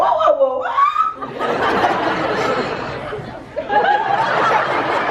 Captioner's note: audience laughs